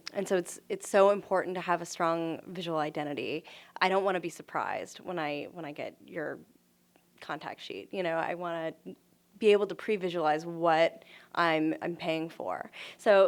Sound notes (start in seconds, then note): none